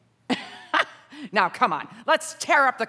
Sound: laughs

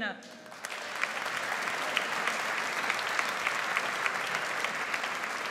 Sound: audience applauds

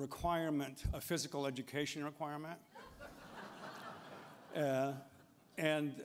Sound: laughter

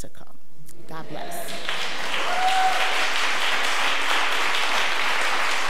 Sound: audience applause

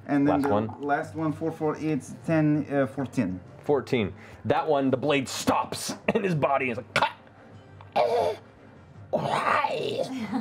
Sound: choking

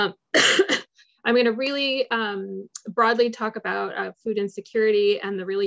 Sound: coughs

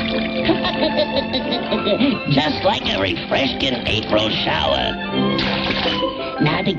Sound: laughs

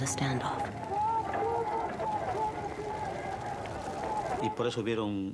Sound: people shouting; speaking foreign language

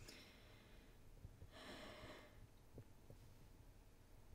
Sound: woman sighs

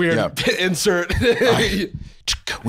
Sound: laughing

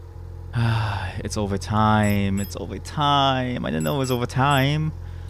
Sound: sigh

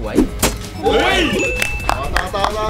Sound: stab; applauding

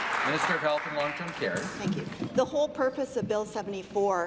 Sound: applause

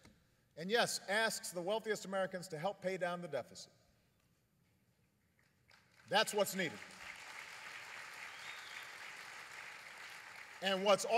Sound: applause

